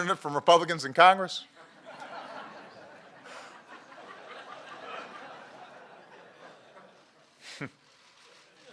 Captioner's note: laughter; laughter